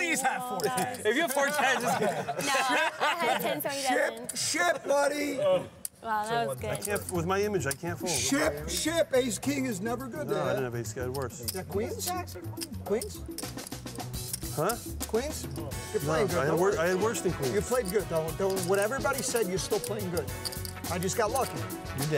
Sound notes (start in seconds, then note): 1.1 laughter; 13.6 jazz Music